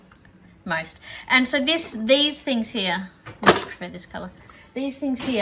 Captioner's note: clatters